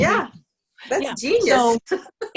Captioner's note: laughs